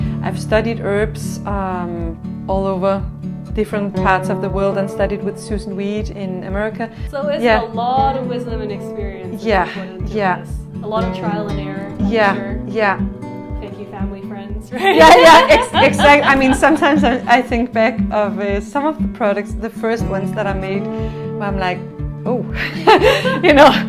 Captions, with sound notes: I've studied herbs all over. Different parts of the world and studied with Susan Weed in America. So it's a lot of wisdom and experience put into this. Yeah, yeah. A lot of trial and error. I'm sure. Yeah, yeah. Thank you family friends, right?! Yeah! Exactly! [laughing] I mean sometimes I think back of some of the products the first ones that I made. And I'm like, 'Oh!" ... [laugh] You know?